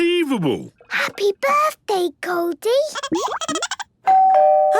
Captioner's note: Goldie giggling; doorbell ringing